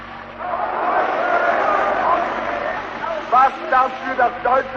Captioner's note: booing